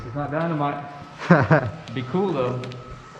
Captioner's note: laughing